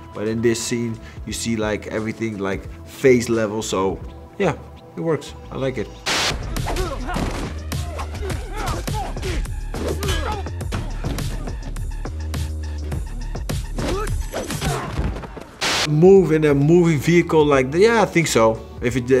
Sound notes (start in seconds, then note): 6.0 static crackles; 7.1 upbeat music; 7.8 all exclaim